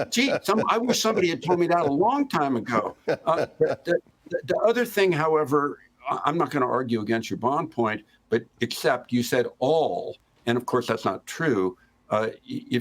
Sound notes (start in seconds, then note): 5.5 laughter